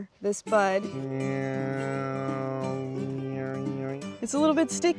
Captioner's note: imitating buzzing